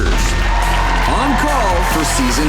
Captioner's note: crowd cheering